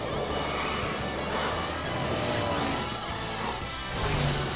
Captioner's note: truck engines roaring